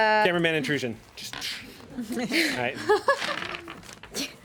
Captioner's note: woman laughs